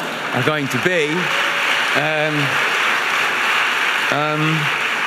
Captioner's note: audience applauding